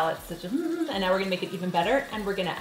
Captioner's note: hums pleasingly